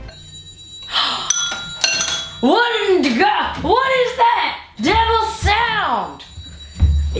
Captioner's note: bell ringing; gasps